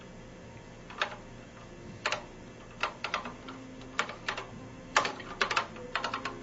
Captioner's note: keys clacking